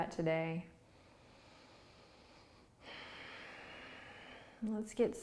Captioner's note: inhaling and exhaling